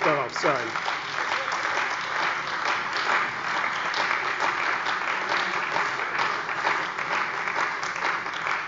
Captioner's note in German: Beifall bei der CDU und dem BÜNDNIS 90/DIE GRÜNEN